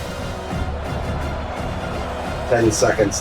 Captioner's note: crowd Noises